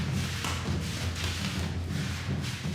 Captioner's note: thuds